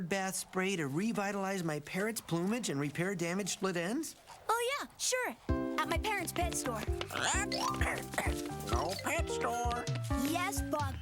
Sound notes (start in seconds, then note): 7.0 coughing